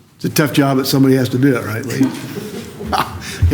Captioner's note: laughter